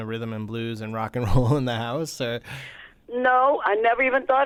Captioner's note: laughter